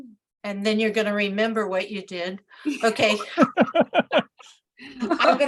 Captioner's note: laughter